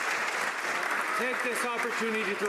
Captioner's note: some Applause